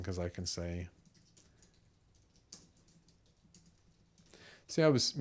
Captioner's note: silence